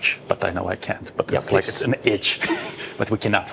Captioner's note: laughs